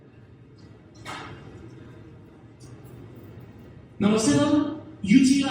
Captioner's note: audience quietly rustling